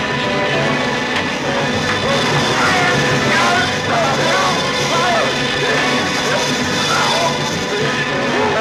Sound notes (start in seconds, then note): 2.8 yelling